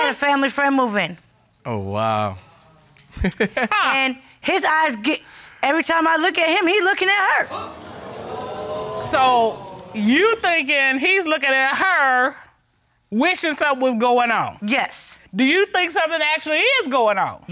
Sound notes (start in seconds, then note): 3.1 chuckling; 7.4 audience gasping